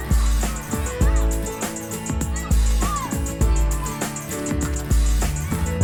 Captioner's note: campers excitedly chattering; lively music